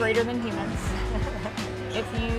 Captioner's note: laughs